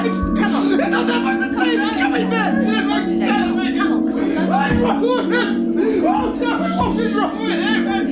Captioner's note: unintelligable shouting then sobbing